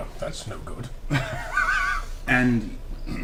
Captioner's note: all laugh